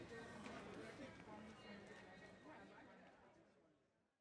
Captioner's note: people chattering